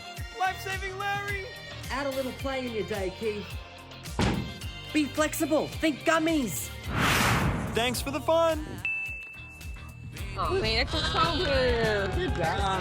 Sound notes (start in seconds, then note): 8.8 ding